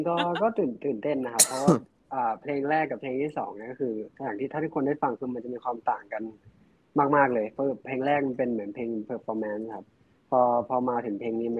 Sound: answering in Thai

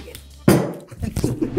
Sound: thud; chuckles

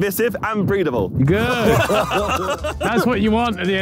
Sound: Sidemen laughing

